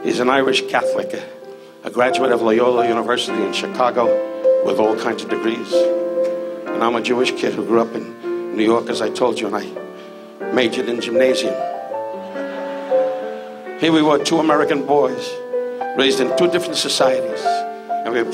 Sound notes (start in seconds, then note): 12.1 audience laughs